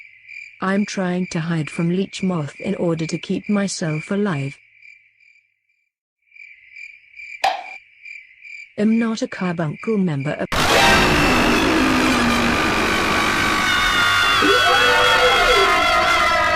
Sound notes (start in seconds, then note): 10.5 Leech Moth's EAR PIERCING SCREAM due to THE PAIN Behind HER